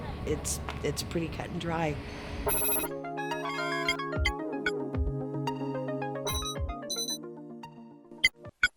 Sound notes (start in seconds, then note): 2.2 electronic beeping; 2.5 electronic music